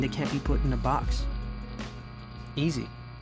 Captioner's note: static buzzes